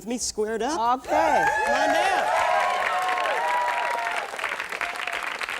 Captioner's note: applause